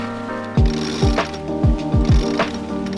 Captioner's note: rope whirring; gentle upbeat music